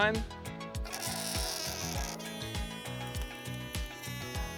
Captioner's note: balloon squealing